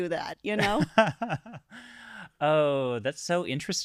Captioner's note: laughing